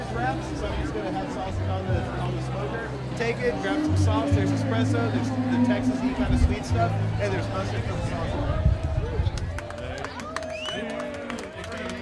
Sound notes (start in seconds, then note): 8.9 crowd cheers